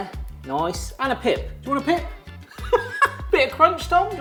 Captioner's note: laughs